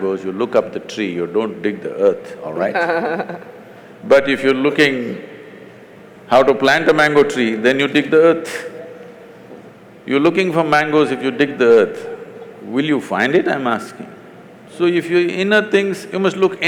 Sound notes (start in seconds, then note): 2.5 Barkha Dutt Laughs